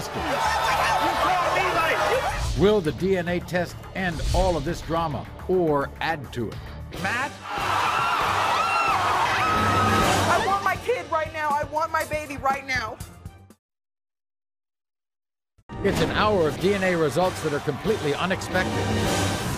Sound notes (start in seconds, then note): 7.5 woman screams